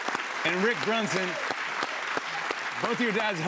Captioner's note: applause